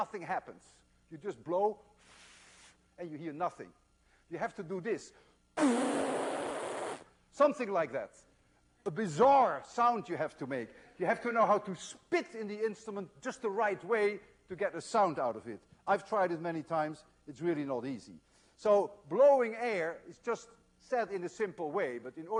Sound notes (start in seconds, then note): 2.0 pffffff